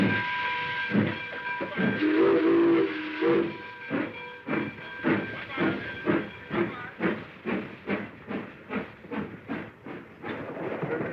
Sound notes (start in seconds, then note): 1.6 train whistle